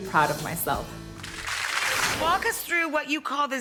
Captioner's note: crackling noise